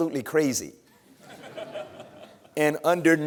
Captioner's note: laughter